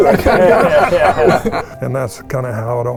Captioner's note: participants continue laughing